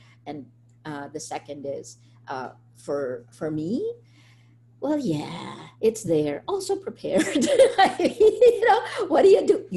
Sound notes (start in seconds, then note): 7.2 laughs